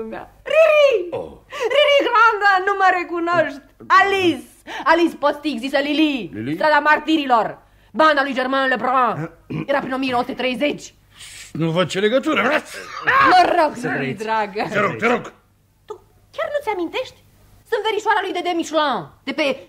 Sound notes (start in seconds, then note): 12.6 sneezes